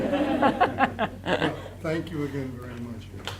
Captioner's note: all laughing